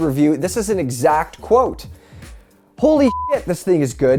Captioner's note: audio glitch